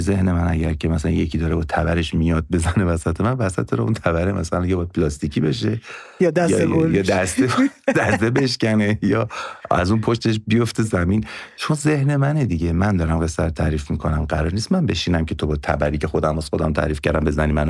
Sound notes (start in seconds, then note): 6.4 laughs